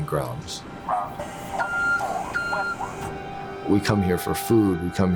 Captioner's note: bus announcement